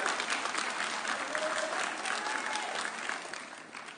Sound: audience cheering

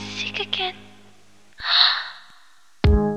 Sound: soft gasp; instrumental

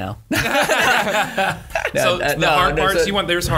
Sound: laughter

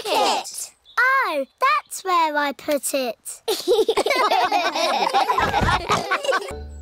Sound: all laugh

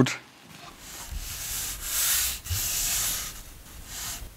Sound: wiping noises

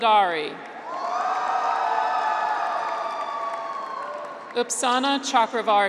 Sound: graduates cheer

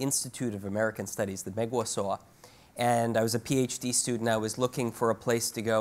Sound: speaks Chinese

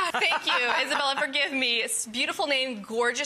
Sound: laughs

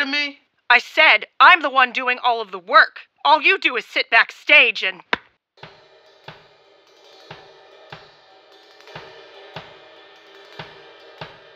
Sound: slap sound

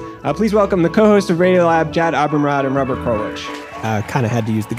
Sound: applause

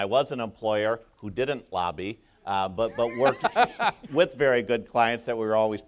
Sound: Emmer laughs

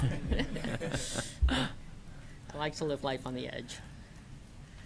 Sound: laughter

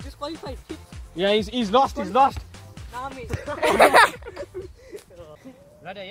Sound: laugh

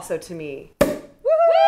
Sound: pop!

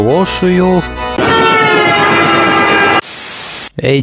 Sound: train horn sound

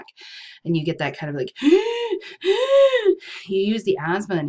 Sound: gasping

